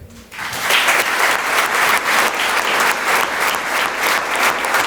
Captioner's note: audience applauds